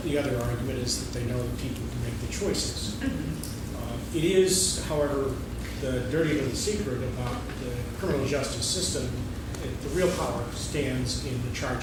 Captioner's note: laughing